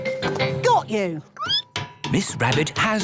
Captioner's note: squeaking